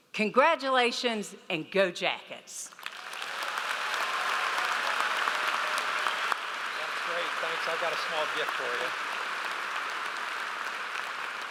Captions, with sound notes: Congratulations and go Jackets. (audience applauds) - That's great, thanks, I've got a small gift for you.